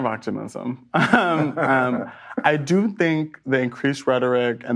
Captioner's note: both laugh